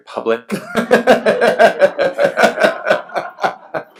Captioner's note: laughs